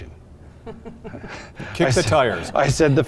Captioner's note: laughter